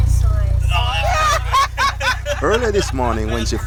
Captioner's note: laughter